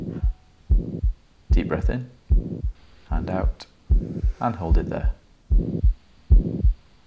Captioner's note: Mitralklap-mislyd stiger med udånding